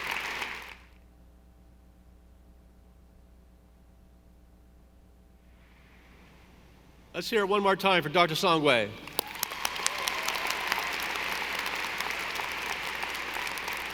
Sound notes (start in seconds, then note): 9.0 audience applauding